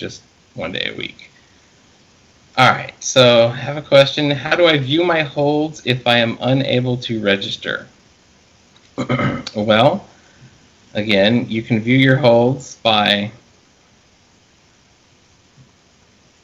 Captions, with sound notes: just one day a week. All right, so have a question. How do I view my holds if I am unable to register? (clears throat) Well, again, you can view your holds by